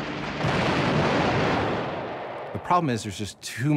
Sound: suspenseful music; plane exploding

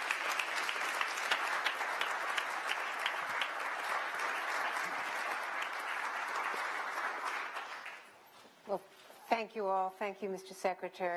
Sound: applause

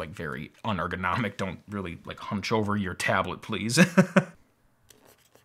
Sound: laughs

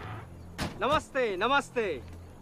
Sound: car door closes

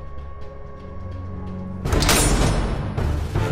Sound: metal door slam SFX

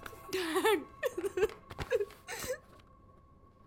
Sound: crying

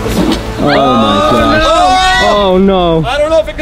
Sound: screams loudly

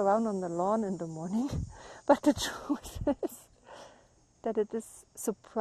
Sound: laughs

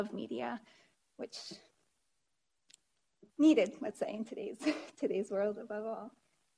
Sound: chuckles

